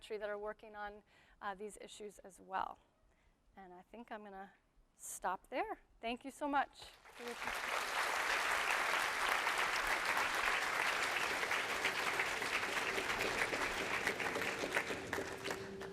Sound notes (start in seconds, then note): 8.3 audience claps